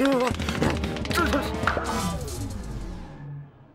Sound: exclaims

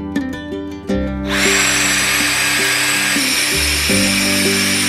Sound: vacuum whirring

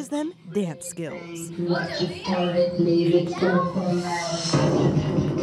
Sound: automated voice

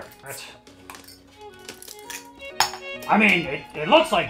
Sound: bottle uncapping noise

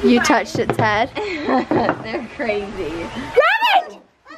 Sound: laughing

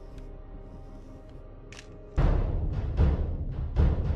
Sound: camera Clicks

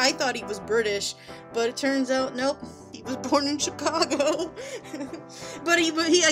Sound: giggles

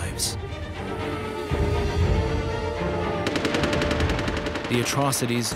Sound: crying and gunfire

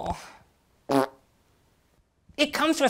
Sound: fart

